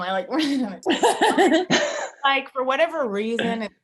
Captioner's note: Jessie laughing